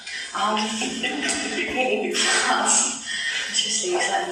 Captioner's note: laughing